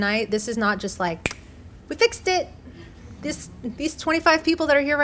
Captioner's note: snapping fingers